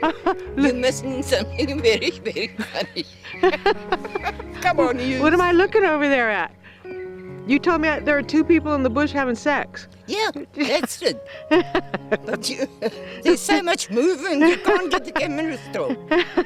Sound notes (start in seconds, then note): 3.0 laughs; 10.6 laughing